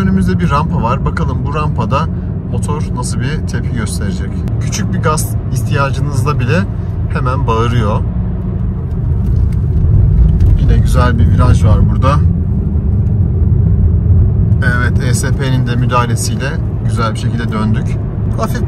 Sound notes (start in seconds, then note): 6.7 the engine